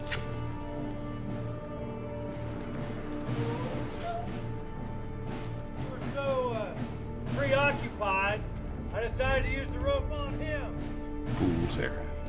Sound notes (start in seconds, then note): 3.3 Mabel whimpers